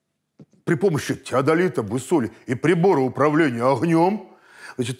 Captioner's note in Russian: басом